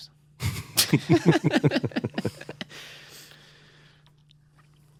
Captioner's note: laughter